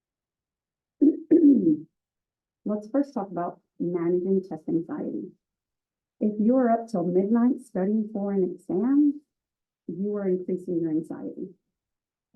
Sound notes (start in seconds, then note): 1.0 cough